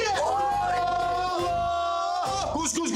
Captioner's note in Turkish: Bağırıyorlar